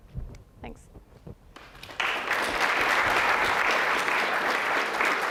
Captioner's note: applause